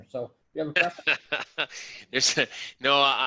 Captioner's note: laughs